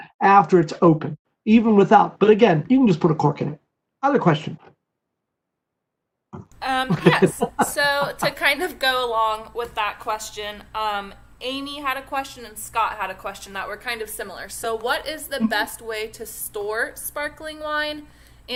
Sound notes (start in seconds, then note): 6.8 laughter